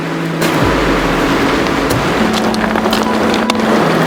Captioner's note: water splashing